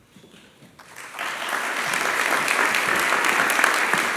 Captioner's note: applause